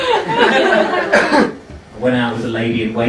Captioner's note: laughing